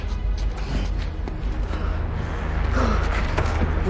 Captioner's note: Danny breathing heavily